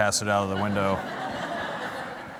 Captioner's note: laughter